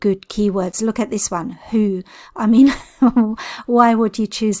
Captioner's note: chuckles